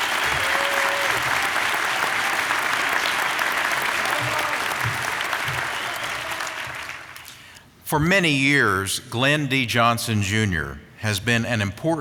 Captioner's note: applause